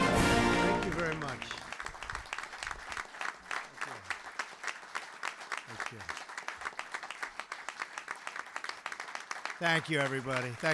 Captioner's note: applause